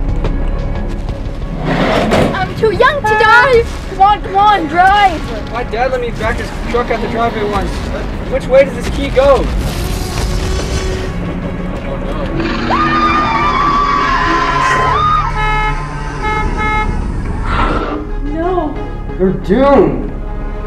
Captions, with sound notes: I'm too young to die! Come on, come on, drive! My dad let me drive his truck at the drive in once. Which way does this key go? [screaming] [honking] No. -They're doomed.